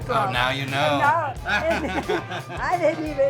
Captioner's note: laughs